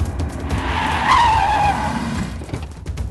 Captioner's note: tire Screeching